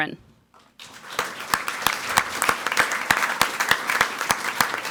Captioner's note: people clapping